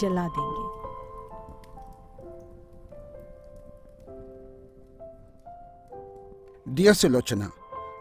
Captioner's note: fire crackles